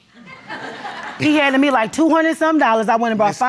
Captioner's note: audience laughs